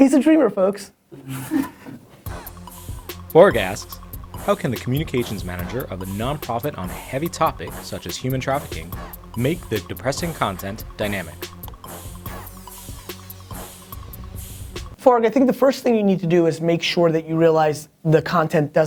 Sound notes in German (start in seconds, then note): 1.7 Lacht; 2.6 Voice-over